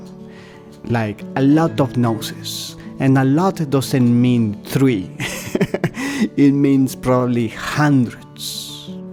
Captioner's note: laughter